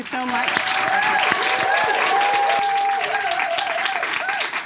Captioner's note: audience claps